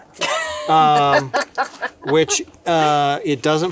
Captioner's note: laughs